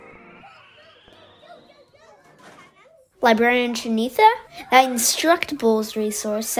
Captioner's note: kids cheering